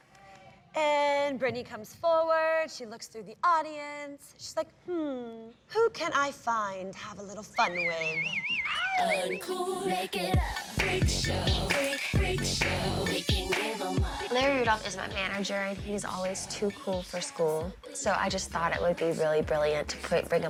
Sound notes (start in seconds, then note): 7.5 whistling